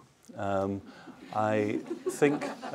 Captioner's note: laughter